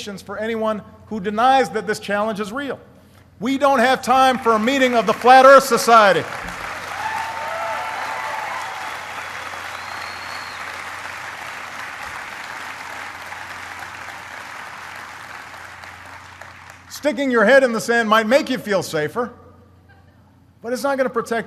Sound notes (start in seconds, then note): 3.0 applause; 11.3 applause